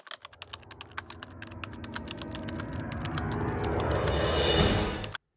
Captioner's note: typing sounds